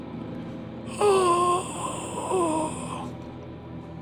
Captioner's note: grunting